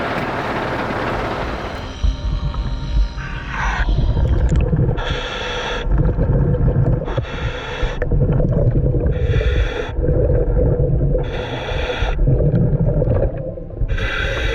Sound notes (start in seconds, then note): 2.6 repeated heavy breathing; 4.5 repeated water gurgling